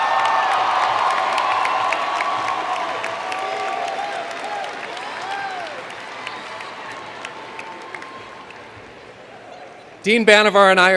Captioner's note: cheers and Applause